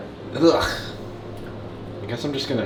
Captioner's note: gags